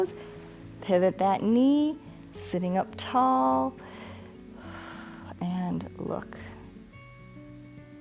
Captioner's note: exhales